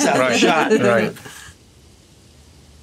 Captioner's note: laugh